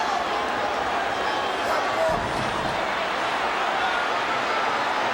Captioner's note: audience shouting